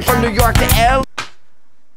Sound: slap

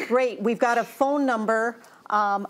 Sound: laughs

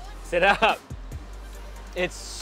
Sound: speaking in foreign language

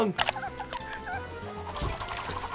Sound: Sniffles squealing; propeller spinning

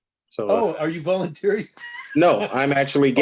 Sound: laughter

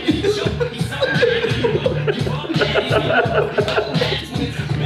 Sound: laugh

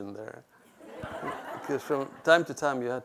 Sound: audience laughs

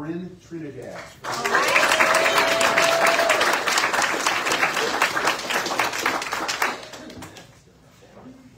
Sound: audience cheers and applauds

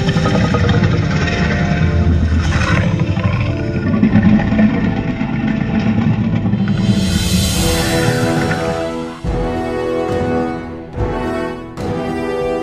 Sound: Indominus growling

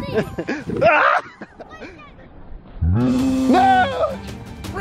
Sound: father screams

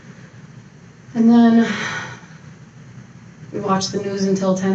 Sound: sighs

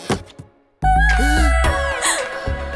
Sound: gasps

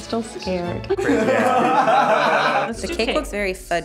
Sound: laughing

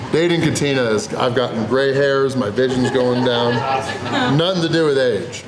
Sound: haha

